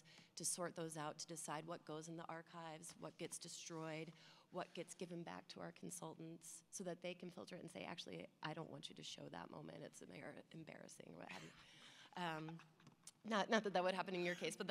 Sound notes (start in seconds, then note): 12.1 laughter